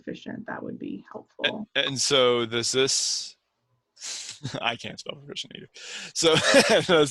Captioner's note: laughs